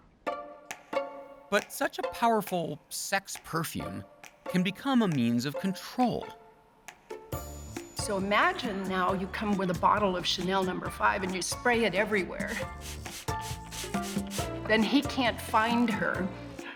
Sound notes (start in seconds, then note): 12.4 spritzing sound effect